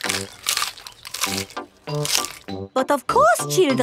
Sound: munching

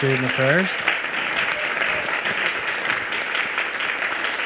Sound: audience applauds

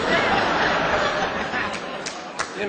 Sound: laughter

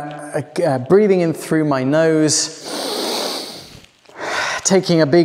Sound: inhales

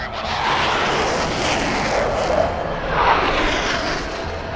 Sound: radio chattering; jets roaring

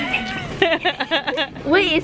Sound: laughing

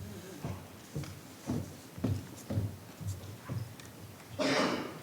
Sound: speaking faintly

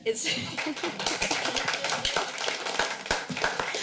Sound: clapping

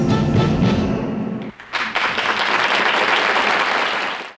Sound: audience applauding

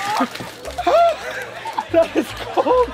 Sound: ice spilling; shouting

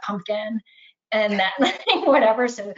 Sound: laughs

